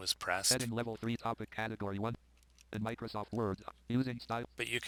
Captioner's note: synthesized speech